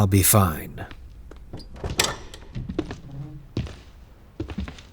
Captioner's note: door opens and footsteps enter